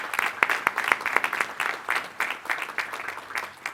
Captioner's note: applause